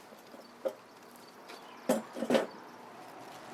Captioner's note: chair clanking